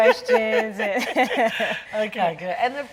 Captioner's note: laughing